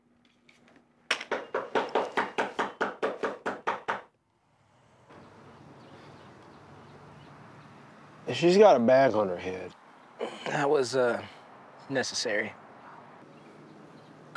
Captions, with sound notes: (door knocking) - She's got a bag on her head. - That was, uh, necessary.